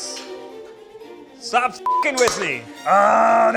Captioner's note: beep